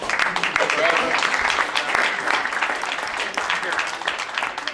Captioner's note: audience claps